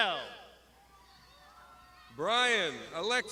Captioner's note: crowd shouting